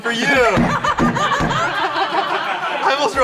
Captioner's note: everyone laughs